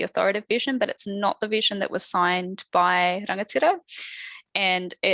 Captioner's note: non-english speech